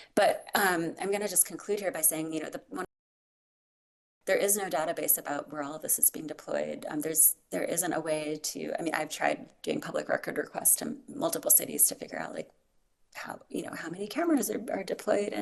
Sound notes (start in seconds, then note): 3.1 audio cuts out